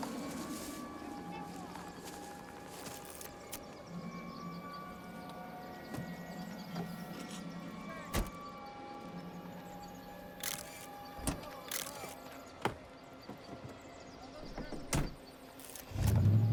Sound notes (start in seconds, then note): 0.6 men chatting in distance; 10.4 camera clicks